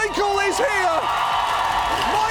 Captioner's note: audience cheers, applauds